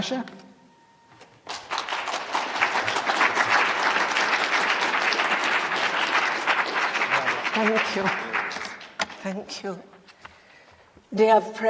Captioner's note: applause